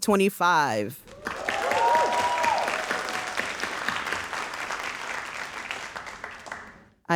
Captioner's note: audience cheering and applauding